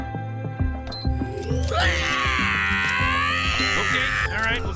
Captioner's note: screams